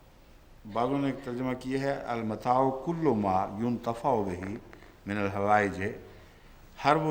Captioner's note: Arabic